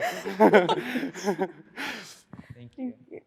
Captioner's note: all laughing